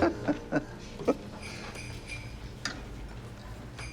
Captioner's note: Dad laughs; bells jingling